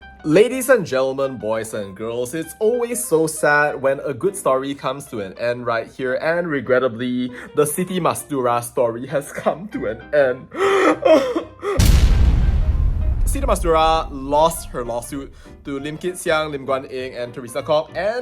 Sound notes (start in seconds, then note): 10.4 sobs; 11.8 explosion